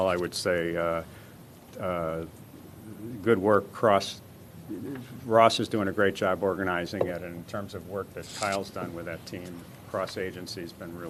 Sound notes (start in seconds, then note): none